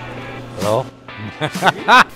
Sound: laughing

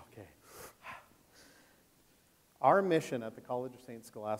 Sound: inhales and exhales quickly

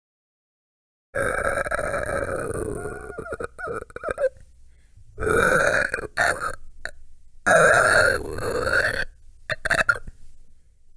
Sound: sound of creature screeching

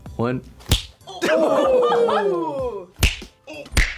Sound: loud smack

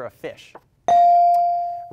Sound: bell rings

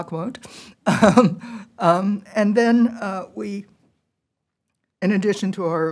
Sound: laughter

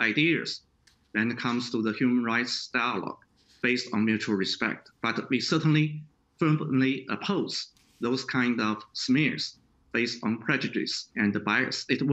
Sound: speaking Chinese

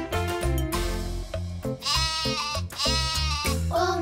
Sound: bleating

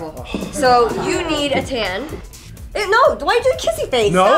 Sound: groans

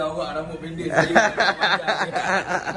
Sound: laugh

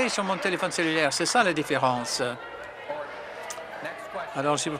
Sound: some Applause

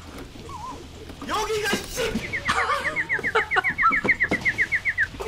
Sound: chirp chirp

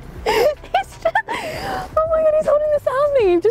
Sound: laughs

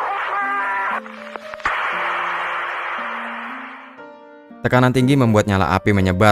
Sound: shouts

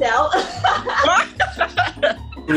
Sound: laughs

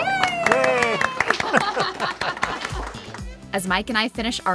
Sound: all applauding

